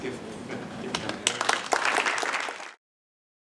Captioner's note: applause